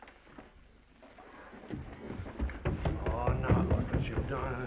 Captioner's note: footsteps receding